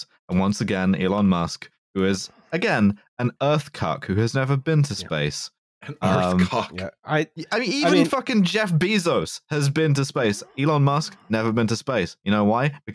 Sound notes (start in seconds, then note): 5.8 laughing